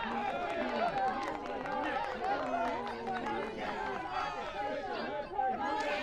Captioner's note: crowd cheers and claps; crowd